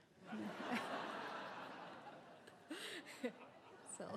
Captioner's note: all laughing